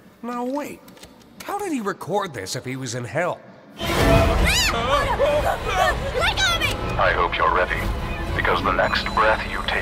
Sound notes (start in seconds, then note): 4.0 kinger wailing